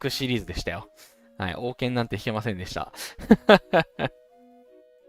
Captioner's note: laughs